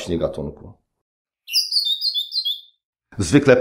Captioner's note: parrot singing